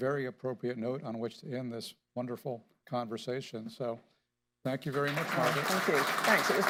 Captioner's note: applause